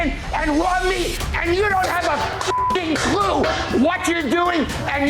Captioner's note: beep